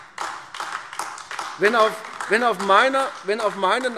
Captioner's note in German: Beifall AfD